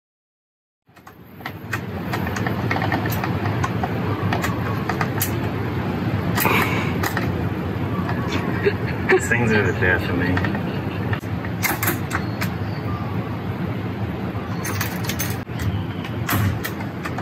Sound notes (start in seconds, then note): 6.2 laughs